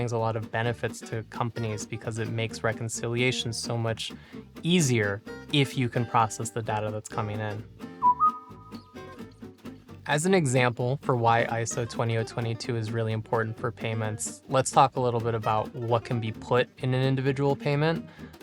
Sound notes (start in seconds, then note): 8.0 notification sound